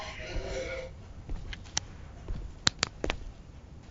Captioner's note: heart pounding freakishly